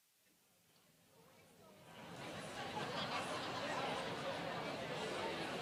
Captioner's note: group chatter